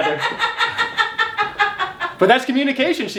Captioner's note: mom laughs